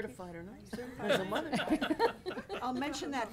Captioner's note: people laughing